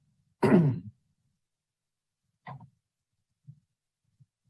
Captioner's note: clears throat